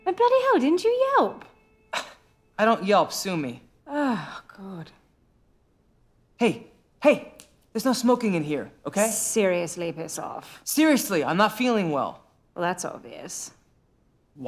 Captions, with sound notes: Oh, bloody hell, didn't you Yelp? (scoffs) I don’t Yelp. Sue me. (Penny sighs) Hey… Hey, there's no smoking in here, okay? Seriously piss off. Seriously, I’m not feeling well. Well, that's obvious.